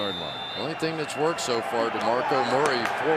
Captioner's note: whistle